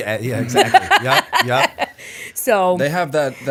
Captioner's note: laughter